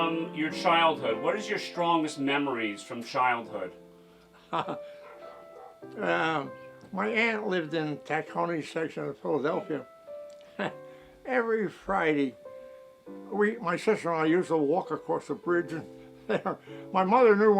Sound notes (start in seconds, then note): 4.4 laughs; 10.4 chuckles